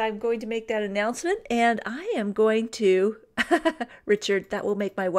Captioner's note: laughs